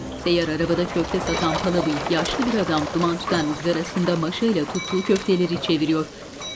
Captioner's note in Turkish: At arabası sesi